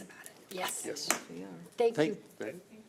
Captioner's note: overlapping chattering